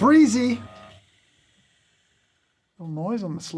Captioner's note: burrs whirring